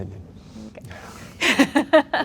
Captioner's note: laughing